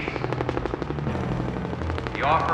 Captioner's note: helicopter rotors whirring